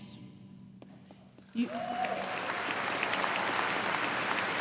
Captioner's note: cheers and applause